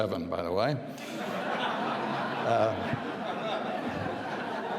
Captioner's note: audience laughing